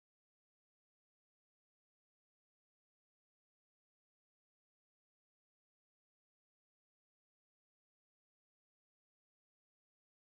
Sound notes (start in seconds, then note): none